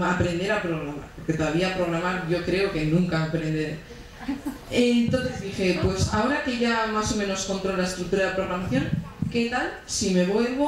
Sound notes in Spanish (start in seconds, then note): 3.9 Risas